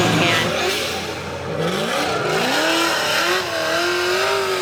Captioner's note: engine revving